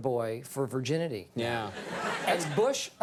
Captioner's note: audience laughs